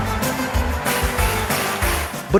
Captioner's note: clapping on beat